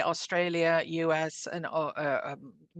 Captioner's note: speaking French